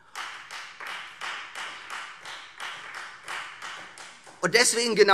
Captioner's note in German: Beifall Freie Demokraten